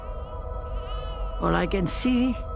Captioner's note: baby crying